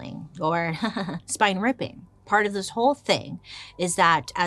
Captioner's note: chuckles